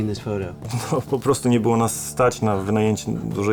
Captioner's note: in Polish